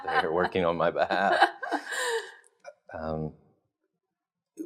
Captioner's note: laughing